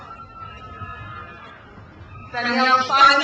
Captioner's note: crowd cheers